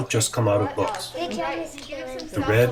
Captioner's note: chatter